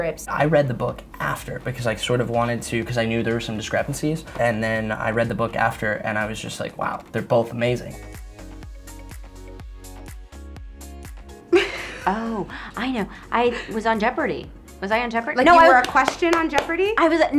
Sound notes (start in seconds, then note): 11.6 laughs